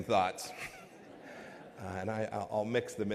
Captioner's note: laughter